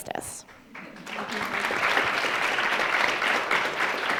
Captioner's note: audience applauds